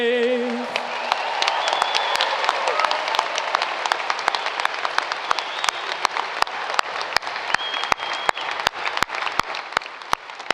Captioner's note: applause